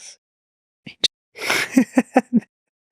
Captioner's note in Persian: خنده